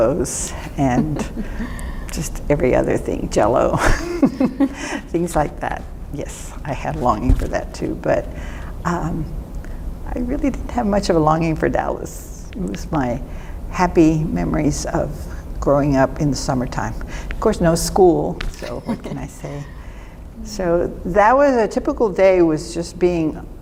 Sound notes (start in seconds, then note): 3.8 laughter